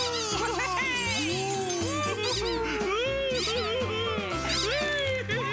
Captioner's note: squeak; cheers & chuckles